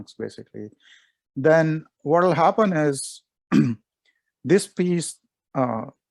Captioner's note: clears throat